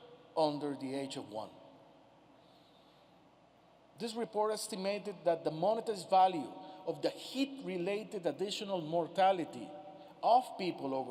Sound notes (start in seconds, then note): none